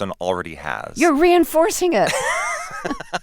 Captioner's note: laughter